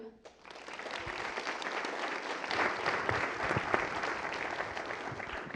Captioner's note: applause